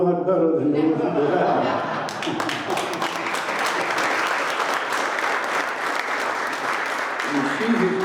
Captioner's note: applause